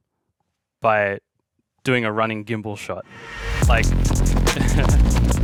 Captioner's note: chuckling; high-intensity music